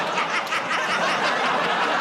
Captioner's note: laughter, audience "Oh"s